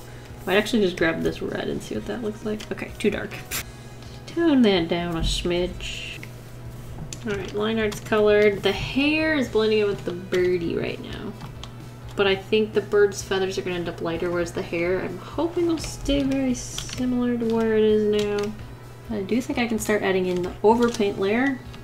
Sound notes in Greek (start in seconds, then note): none